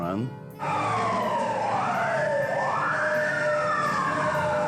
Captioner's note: sirens blaring